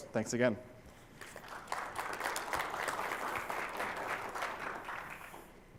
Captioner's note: applause